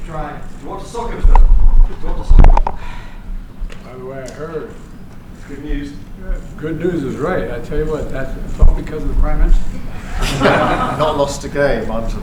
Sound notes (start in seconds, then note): 10.2 laughter